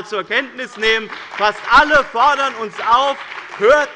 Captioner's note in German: Beifall bei dem BÜNDNIS 90/DIE GRÜNEN und der CDU